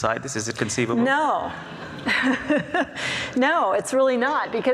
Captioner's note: laughs